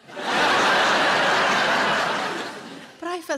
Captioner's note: audience laughing